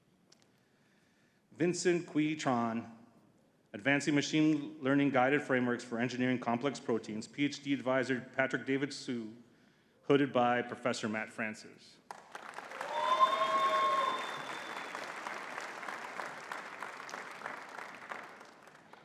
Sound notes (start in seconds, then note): 12.1 audience cheering and clapping